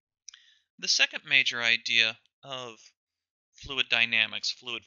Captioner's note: voiceover